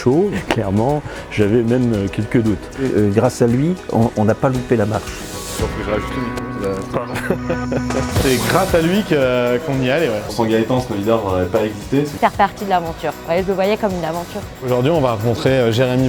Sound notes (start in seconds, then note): 5.6 murmurs